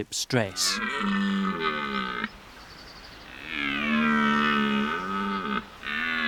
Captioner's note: deep, throaty calls